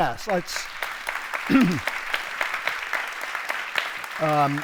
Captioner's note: audience applauds